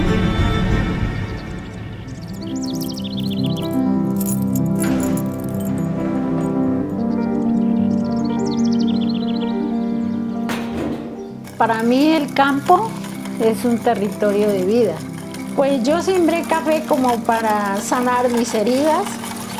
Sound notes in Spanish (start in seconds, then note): 1.5 Acordes de piano; 1.5 Sonidos de pájaros